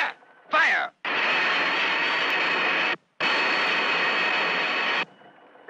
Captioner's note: lasers blasting